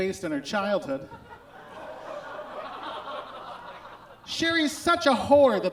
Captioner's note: audience groans